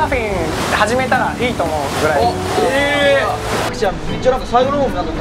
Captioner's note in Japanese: none